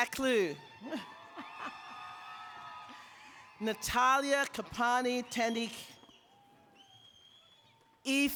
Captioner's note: applause